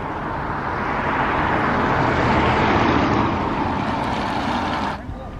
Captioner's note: traffic roars past